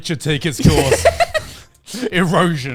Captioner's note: laughs